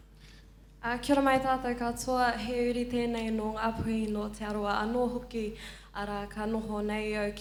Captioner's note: foreign language